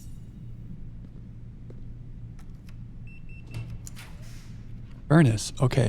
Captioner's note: beeping